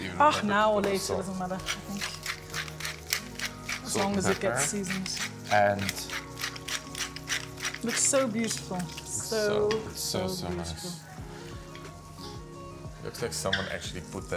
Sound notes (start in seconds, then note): 1.8 mill grinding; 11.0 upbeat music